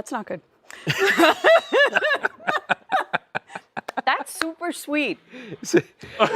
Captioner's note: laughter